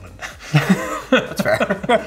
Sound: all chuckle

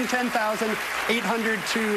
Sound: applause

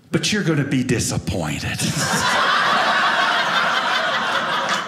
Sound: audience laughing

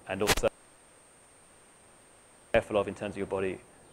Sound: microphone cuts out

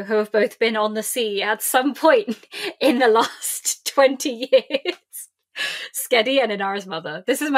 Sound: lauging

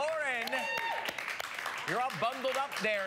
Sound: audience applause

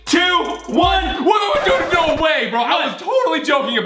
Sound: screams

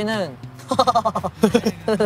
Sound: laughing

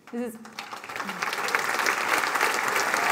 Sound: applause

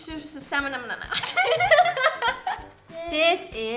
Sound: laughs; singing

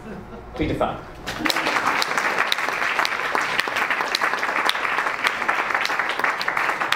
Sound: audience and panelists applaud

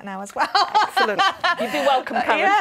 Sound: laughing

